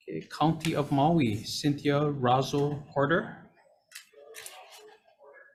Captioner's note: speaking away from mic